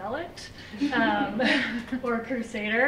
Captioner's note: laughter